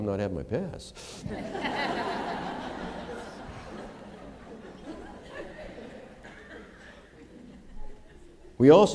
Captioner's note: laughter